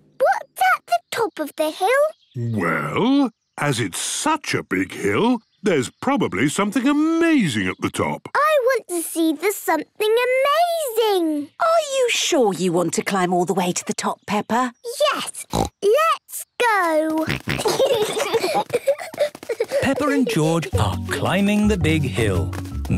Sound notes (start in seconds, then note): 15.4 snorts; 17.2 snorting, giggling